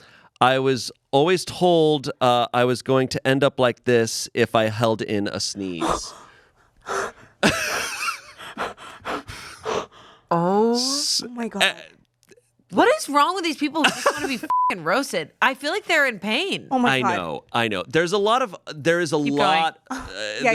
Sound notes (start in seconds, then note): 7.4 laughs; 14.4 beep